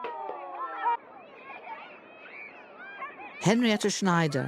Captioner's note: children laughing